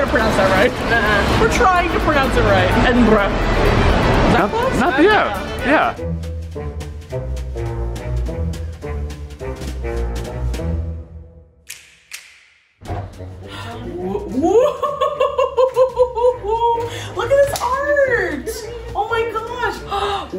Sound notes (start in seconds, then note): 5.9 mysterious music; 14.1 laughs